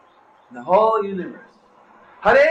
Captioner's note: devotees chant along